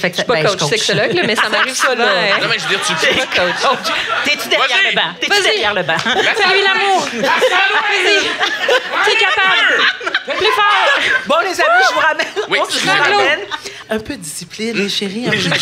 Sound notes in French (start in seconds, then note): 7.1 cacophonie et rires